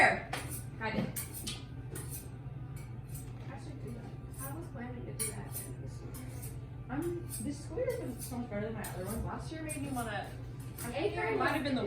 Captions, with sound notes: like, a dope ass edit at the end of the year. Edit. I should do that, I was planning to do that... (knife sliding on sharpener) Um, this school year, 'cause it's so much better than it was last year, made me wanna--